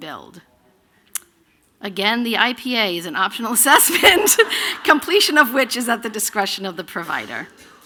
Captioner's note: laughter